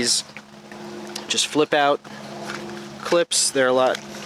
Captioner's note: engine roaring